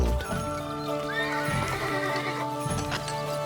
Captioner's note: horse whinnies